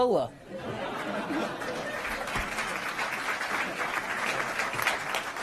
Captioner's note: applause